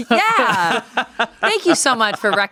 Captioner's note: laughs